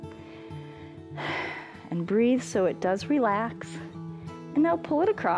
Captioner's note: exhales